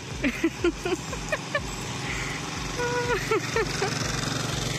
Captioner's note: laughter